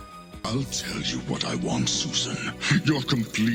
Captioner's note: with a villainous growl